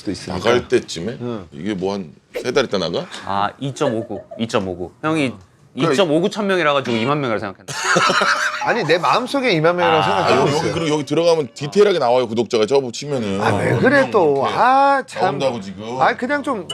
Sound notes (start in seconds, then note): 7.8 failed to hold back laughter